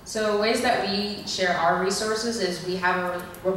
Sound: voiceover

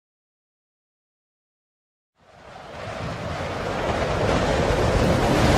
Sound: fierce wind

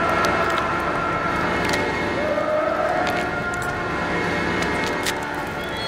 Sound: screaming, skull crackling

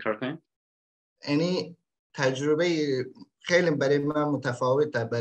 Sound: speaks in Dari

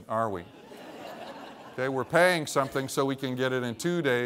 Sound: laughter

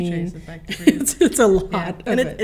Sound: laughs

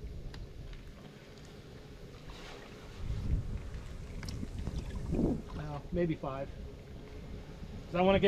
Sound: water splashing

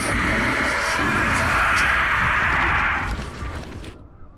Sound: eerie whispering continues

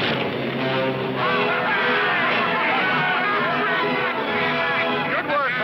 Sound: cheering; laughing

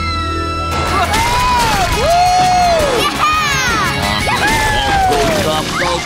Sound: cheering

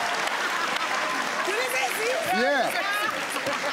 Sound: in foreign language

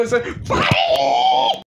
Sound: in fnaf 1 jumpscare pitch

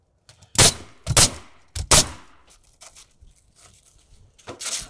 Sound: nail gun bangs

